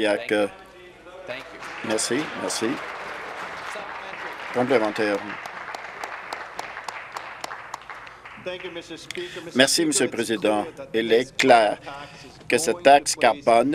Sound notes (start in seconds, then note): 5.7 applause